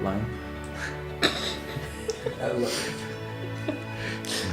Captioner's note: sniggering